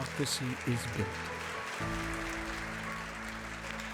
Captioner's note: applause